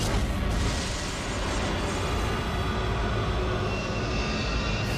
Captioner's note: thunder rumbling